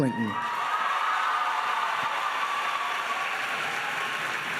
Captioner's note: applauding and cheering